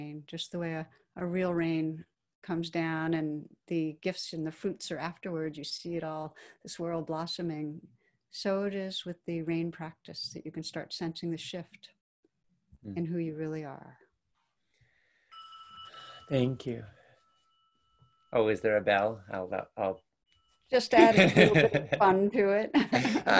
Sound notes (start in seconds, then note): 15.2 bell rings; 21.0 laughs